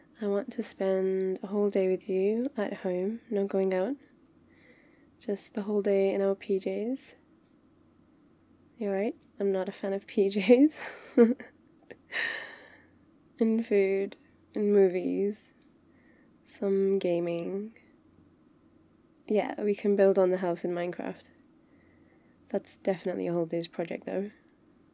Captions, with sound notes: I want to spend a whole day with you, at home... no going out just the whole day in our PJ's you're right... I'm not a fan of PJ's *laughs* and food... and movies some gaming yeah we can build on the house in Minecraft that's definitely a whole days project though